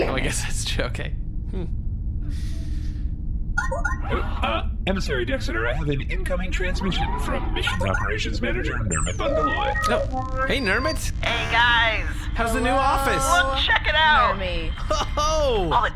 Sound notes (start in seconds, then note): 3.6 incoming transmission sound; 10.0 transmission start sound; 11.6 over comms